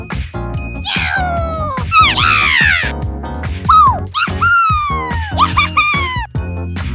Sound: Munkey gibberish

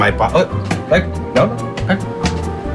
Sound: popcorn pops

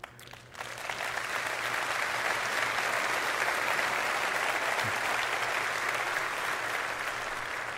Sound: applause

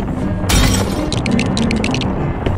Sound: glass Shatters; Lego Building Noise

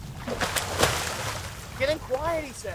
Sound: splashing

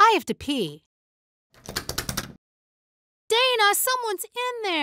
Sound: wiggling handle

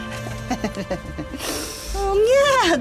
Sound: laughter

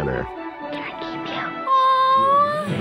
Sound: voice-over; whispers; voice-over

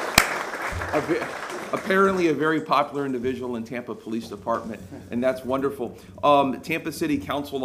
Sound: applause

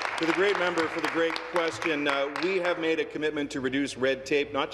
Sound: applause

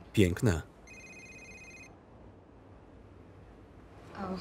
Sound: cell ringing

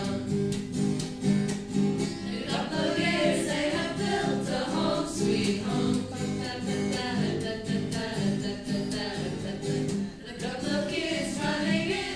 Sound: ha ha ha ha

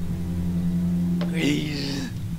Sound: wheeeeeze

